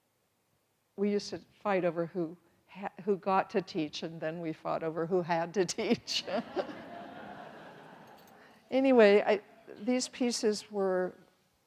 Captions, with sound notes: We used to fight over who got to teach and then we fought over who had to teach. (everyone laughs) Anyway I, these pieces were,